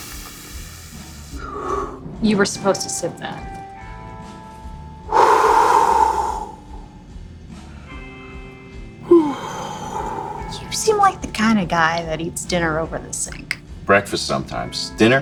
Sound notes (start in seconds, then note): 5.1 man sighing